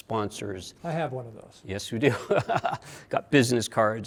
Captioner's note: laughs